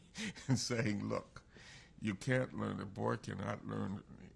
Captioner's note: laughs